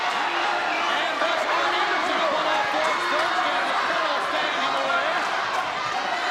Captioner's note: audience cheers drowns out commentators